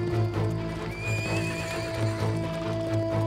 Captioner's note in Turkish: At kişneme sesi